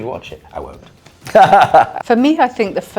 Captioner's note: laughing